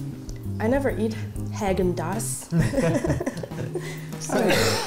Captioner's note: laughter